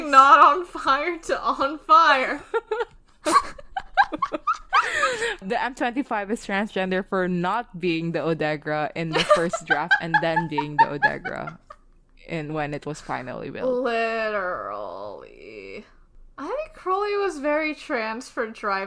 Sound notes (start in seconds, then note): 2.5 both laughing; 9.1 laughing